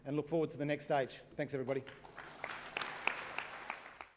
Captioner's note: applause